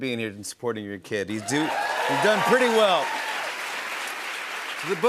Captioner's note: cheers and applause